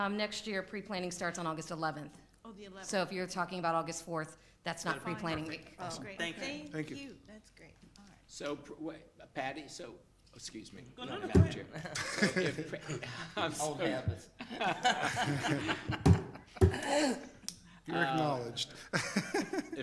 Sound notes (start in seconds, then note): 11.0 people chuckling; 14.5 people laughing; 18.9 laughs